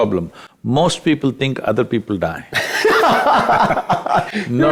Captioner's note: both Laugh